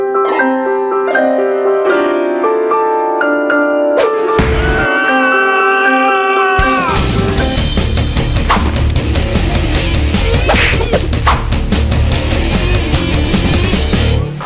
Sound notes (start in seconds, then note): 4.3 yelling in pain; 6.7 rock music